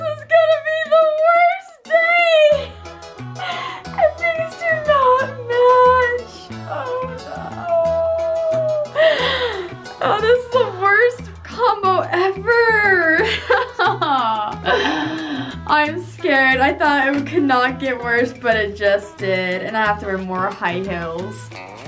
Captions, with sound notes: This one's gonna be the worst day! These things do not match, oh no. Oh this is the worst combo ever! (laughing) I'm scared, I thought it could not get worse but it just did and I have to wear more high heels.